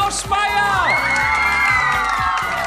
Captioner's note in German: Applaus